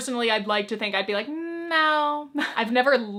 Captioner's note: chuckles